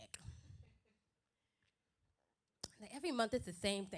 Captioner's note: silence